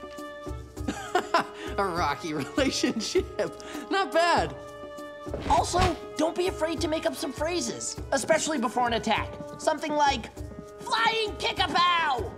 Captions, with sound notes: [laughing] A rocky relationship! Not bad! Also, don't be afraid to make up some phrases! Especially before an attack. Something like... flying kick-a-pow!